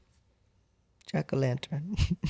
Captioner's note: laugh